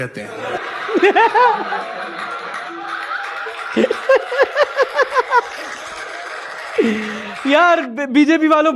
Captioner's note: laughter